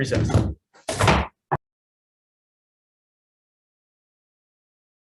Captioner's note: gavel pounding